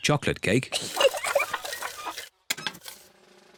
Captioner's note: giggles